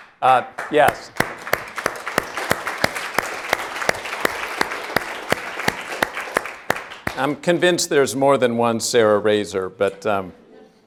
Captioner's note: applause